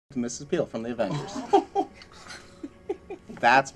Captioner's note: laughing